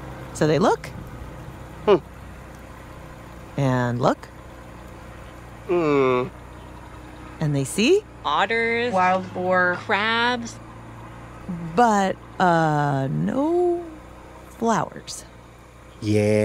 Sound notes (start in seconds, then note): 7.3 more motorboat sounds